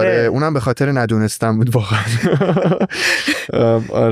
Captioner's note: laughs